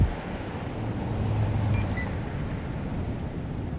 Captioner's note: walk signal chirps